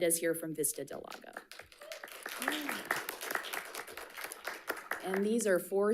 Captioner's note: audience applauding